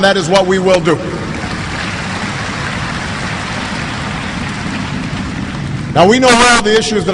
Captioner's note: applause